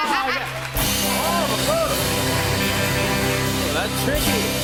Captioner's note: cheers and applause